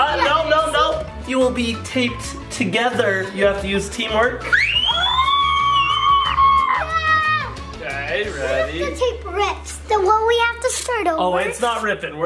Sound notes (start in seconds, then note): 4.5 both screams